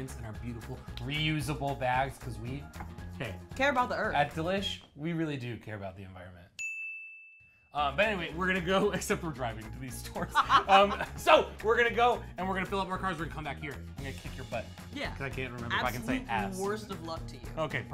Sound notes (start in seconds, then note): 6.6 bell pings; 10.2 laughs